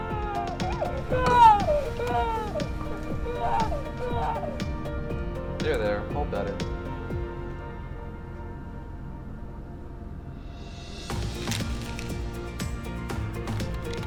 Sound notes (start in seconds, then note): 0.0 baby crying